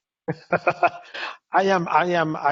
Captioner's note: laughs